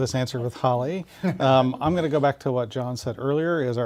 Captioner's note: laugh